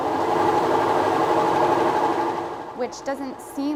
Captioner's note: washing machine whirring